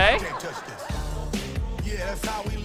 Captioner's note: laughter; singing